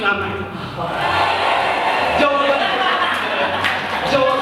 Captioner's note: imaginary audience applause